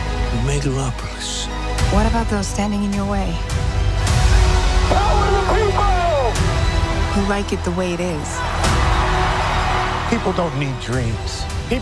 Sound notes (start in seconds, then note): 3.6 dramatic music; 7.6 crowd cheering